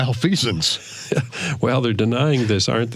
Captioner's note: chuckling